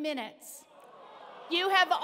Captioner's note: audience groaning